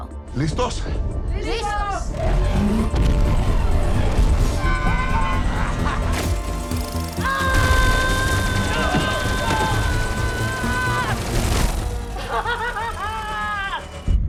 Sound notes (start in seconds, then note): 4.5 screaming; 7.2 roars